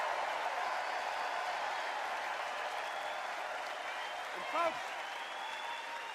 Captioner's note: extended cheers and applause